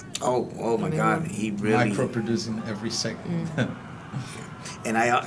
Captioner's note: laugh